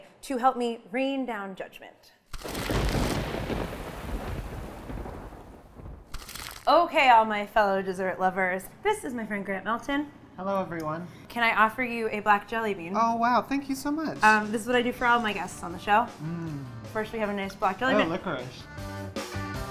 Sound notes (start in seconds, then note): 2.4 thunder crackles